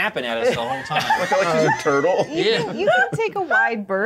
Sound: co-hosts laughing

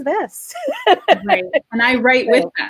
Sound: laughing

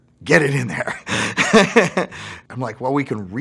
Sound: laughs

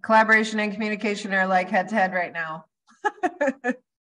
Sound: laughs

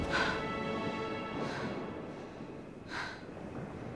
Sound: panting

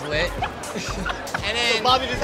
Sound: laughter

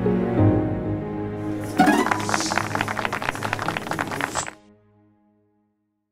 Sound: applause

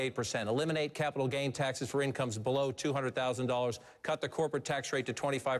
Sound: none

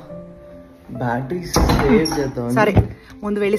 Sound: locks Door

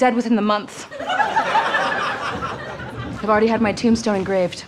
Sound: audience laughter

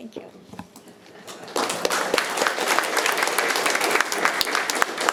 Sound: attendees applauding

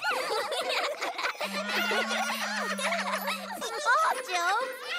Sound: care bears giggle

